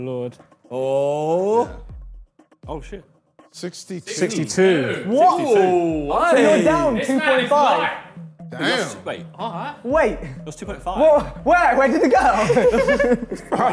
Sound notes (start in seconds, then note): 3.8 group In Unison